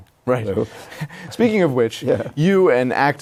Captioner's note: laughs